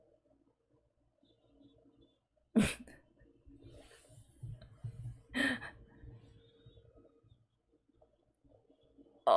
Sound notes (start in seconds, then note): 2.6 chuckles; 5.4 laughs